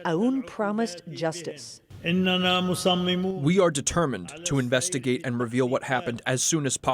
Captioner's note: through translator